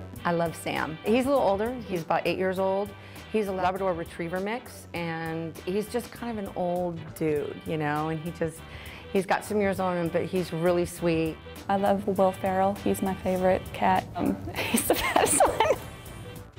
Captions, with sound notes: - I love Sam. He's a little older, he's about eight years old. He's a Labrador/retriever mix. And he's just an old dude and he just, he's got some years on him, but he's really sweet. - I love Will Feral, he's my favorite cat. He's the best one (laughs).